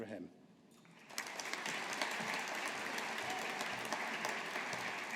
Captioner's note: audience applauding